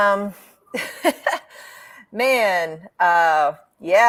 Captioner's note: laughs